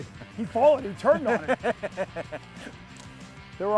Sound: laughs

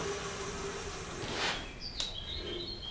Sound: birds chirping

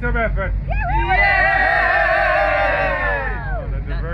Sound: group members cheering

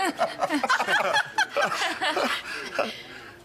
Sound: laughter; nervous laughter; laughter trails off

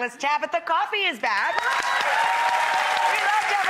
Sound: audience applause

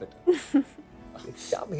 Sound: laughing

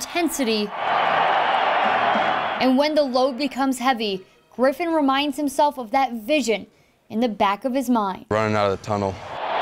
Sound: crowd noise

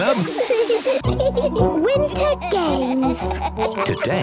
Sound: laughter; giggling

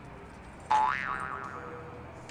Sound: boing

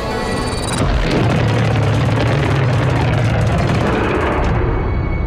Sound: dramatic music continues; creature roars

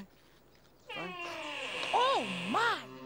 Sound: door creaks

